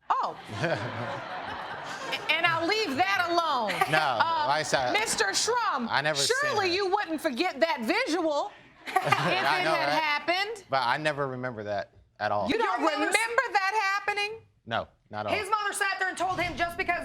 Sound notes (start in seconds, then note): 0.4 laughs; 6.3 both laughing